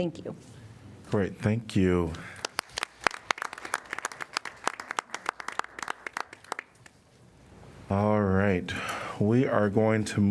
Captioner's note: applause